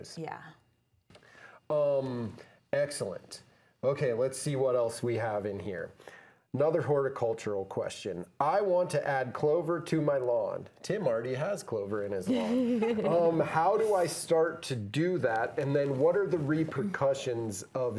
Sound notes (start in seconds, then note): 12.3 group laughing